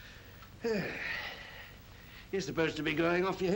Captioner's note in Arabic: تنهدات خشنة